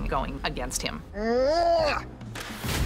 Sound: groans

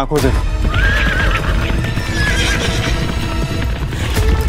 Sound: horses neighing and galloping

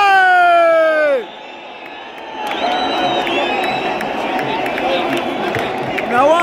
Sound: clap

